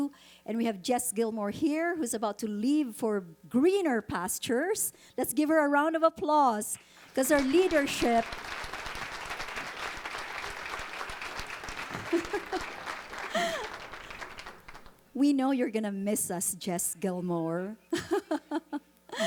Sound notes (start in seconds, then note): 9.4 audience applauding